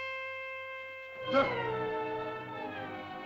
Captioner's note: tense whimsical music; tense music; Tumak grunts